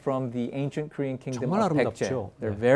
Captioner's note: speaking in Korean